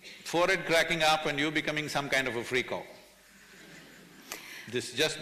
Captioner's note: few laugh